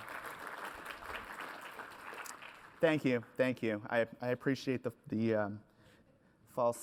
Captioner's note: applause